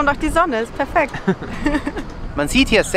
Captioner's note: laughter